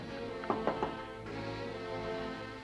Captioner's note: knocking on door